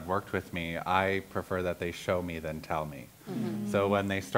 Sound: others agreeing

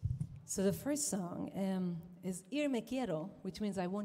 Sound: says song title in Ladino

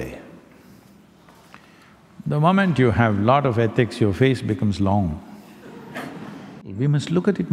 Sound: laughter

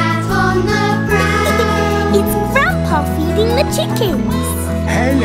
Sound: laughs

